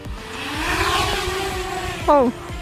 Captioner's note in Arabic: أزيز الطائرات بدون طيار